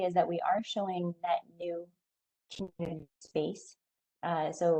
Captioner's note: audio drops